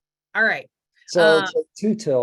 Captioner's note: laughs